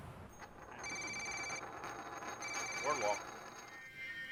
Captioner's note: cellphone ringing